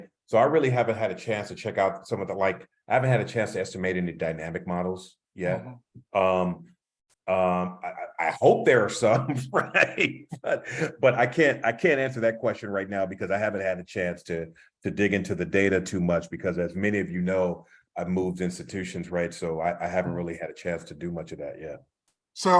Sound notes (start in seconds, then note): 9.0 laugh